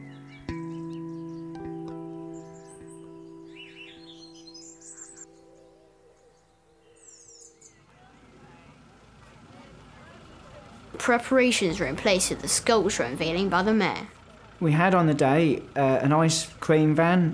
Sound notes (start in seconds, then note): 5.7 nature sounds